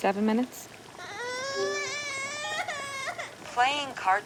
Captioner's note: Jack crying